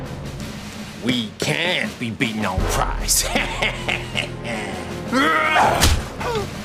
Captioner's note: sniggers; roars; thud; crash; gasps